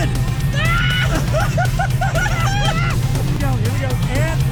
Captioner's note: both laughing